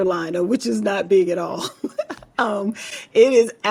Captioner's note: laughs